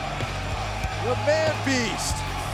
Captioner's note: crowd cheering